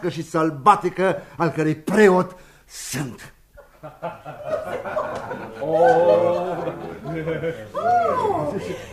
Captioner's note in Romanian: Râsete